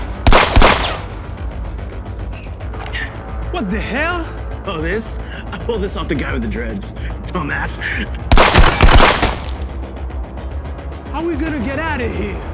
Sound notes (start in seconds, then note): 0.1 gun firing; 2.7 dramatic music; 8.3 guns firing